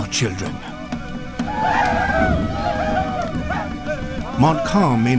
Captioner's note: tribe shouting